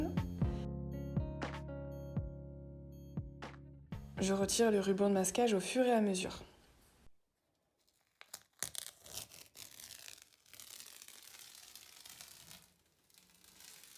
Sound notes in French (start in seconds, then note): 7.8 Bruits de scotch